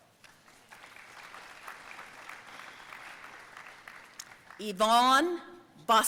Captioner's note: audience applauding